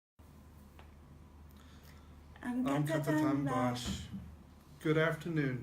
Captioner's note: non-english speech